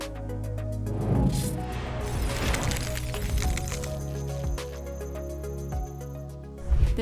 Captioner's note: air swooshing; objects rattling